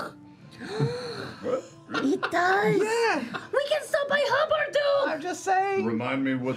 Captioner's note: gasps